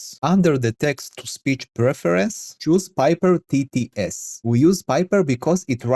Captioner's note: text-to-speech